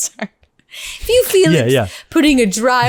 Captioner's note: laughs